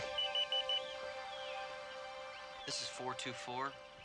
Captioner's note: phone beeping